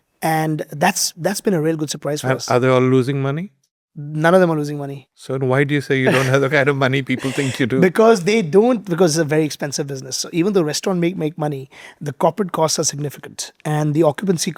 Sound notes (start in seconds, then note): 7.0 speaker 1 chuckling